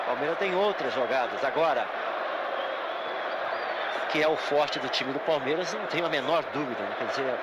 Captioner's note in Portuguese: aplausos